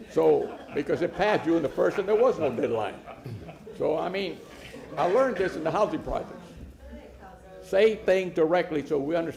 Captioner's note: laughter